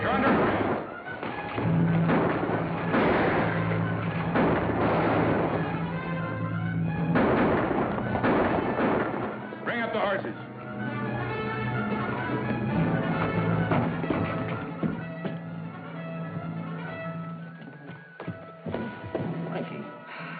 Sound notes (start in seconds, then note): 7.0 gunshots; 7.1 horses galloping; 12.3 action music